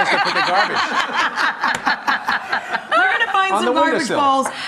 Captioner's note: laughing